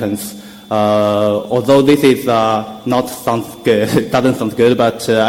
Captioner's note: chuckles